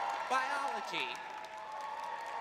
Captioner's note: cheering